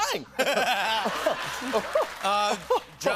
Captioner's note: laughter